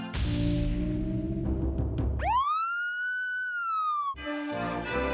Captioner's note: drumming music; siren wailing